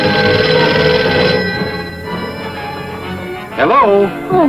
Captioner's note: phone ringing; coins clanging